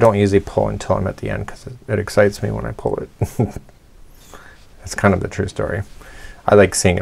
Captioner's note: chuckles